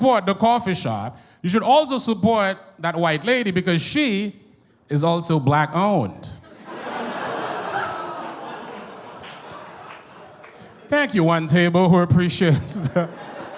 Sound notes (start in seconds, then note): 6.4 audience groans and applauds